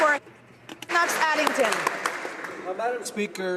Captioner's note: some Applause